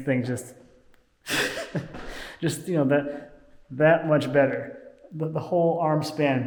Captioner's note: laughing